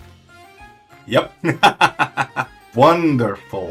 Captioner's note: laughs